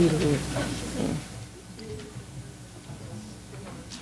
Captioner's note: crowd chatter